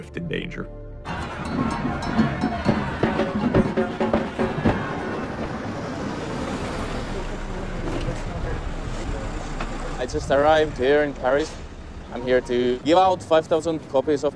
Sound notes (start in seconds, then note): 1.0 drums boom; 5.3 engine revs